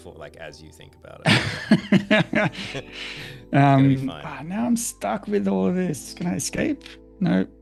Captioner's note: laughter